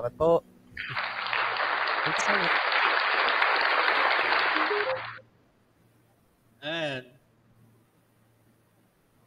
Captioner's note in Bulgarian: Аплодисменти